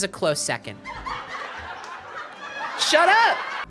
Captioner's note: sitcom laughter